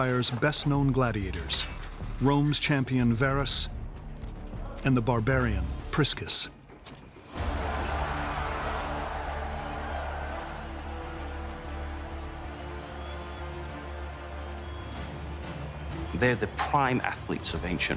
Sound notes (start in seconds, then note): 7.6 crowd cheering